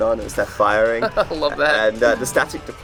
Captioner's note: laughs